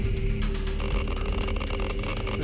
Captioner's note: counter clicking